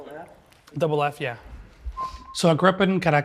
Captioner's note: whistling